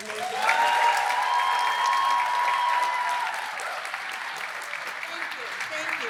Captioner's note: applause